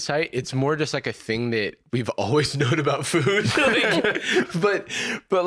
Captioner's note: laughs